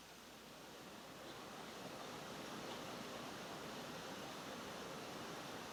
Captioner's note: thundering water noise